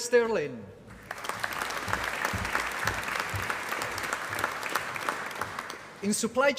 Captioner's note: applause